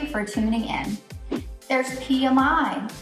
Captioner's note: air whooshes